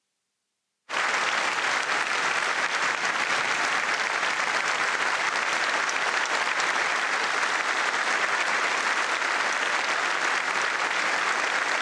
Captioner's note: applause